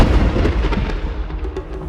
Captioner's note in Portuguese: música indígena; trovões